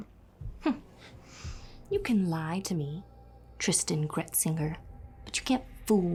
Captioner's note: scoffs